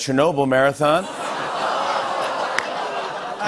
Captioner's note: audience groans